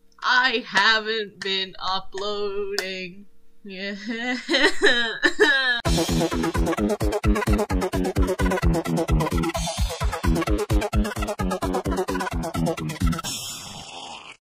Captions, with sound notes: I haven't been uploading [the fakest and dumbest crying ever ew] [fart beat]